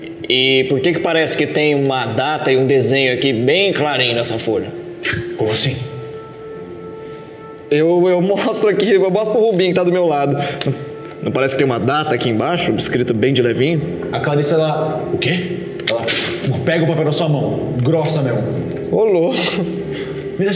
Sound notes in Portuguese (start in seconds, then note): 16.3 flaap